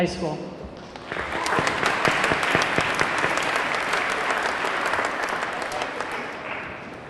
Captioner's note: audience clapping; audience cheering